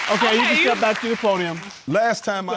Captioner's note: audience laughing